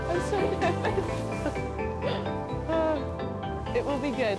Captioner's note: laughs